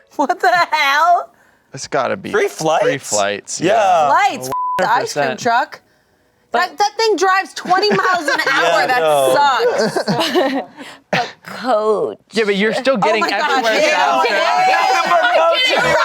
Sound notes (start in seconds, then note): 4.5 beep